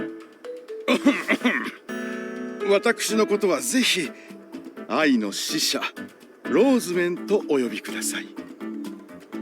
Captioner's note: cough